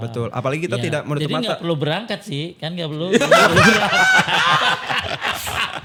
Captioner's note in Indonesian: tertawa